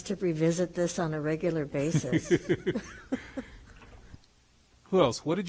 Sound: laughs

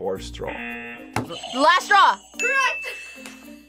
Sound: buzzer rings; buzzer; bell rings

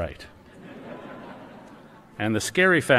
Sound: laughter

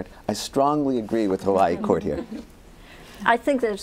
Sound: laughter

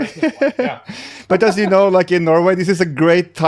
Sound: chuckles

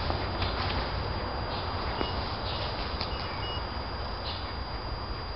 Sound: tester Beeps

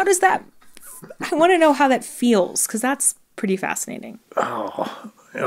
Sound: laughter

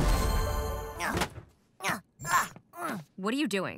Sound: grunts

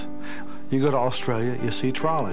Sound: none

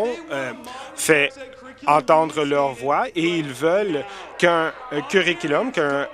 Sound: applause

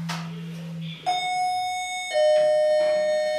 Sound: noise of lift bell

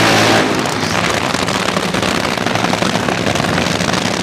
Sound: fireworks crackling

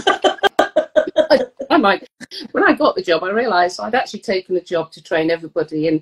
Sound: laughing

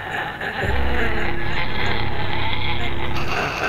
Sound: growling

